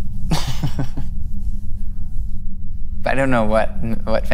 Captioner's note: laughs